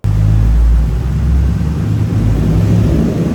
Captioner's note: car engine revving